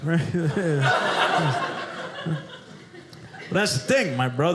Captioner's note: audience laughing